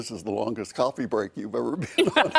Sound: laughing

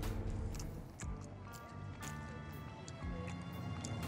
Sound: slurping

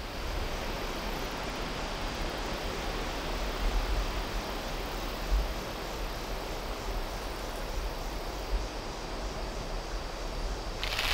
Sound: wind blowing

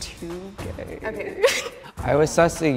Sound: laughs

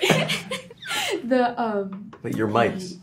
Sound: whispers

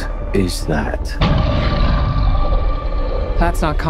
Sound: Scar King growls

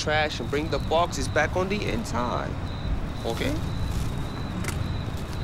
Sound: none

